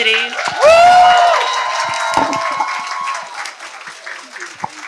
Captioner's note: applause